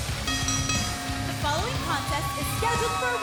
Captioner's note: bell ringing